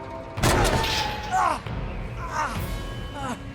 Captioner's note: tense music; train crashing